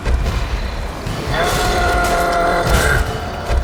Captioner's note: roar